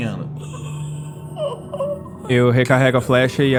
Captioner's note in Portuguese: Grunhido